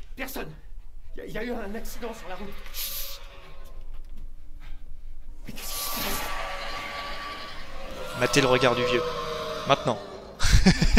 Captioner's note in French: rire